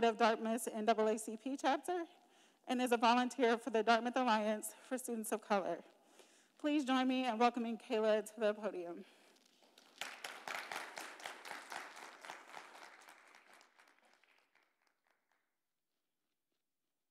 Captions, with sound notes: of Dartmouth's NAACP Chapter and as a volunteer for the Dartmouth Alliance for Students of Color. Please join me in welcoming Kailah to the podium. (attendees applauding)